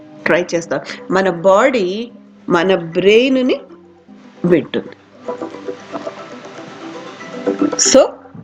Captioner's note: phone ringing